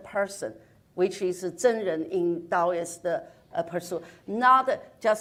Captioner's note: speaks in foreign language